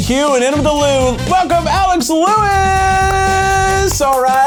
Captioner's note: claps